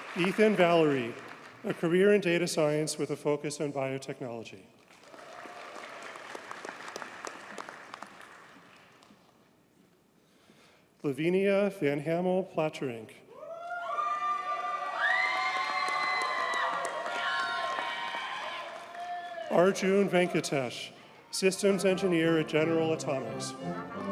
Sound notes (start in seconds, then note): 4.9 audience cheers and applauds; 15.2 audience cheers and applauds; 23.8 audience cheers and applauds